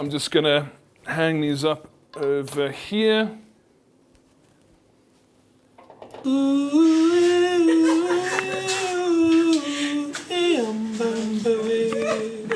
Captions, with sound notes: I'm just gonna hang these up over here. (humming) (Lady laughing)